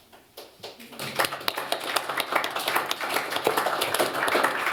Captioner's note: applause